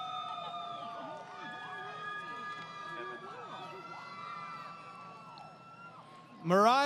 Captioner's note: crowd Cheering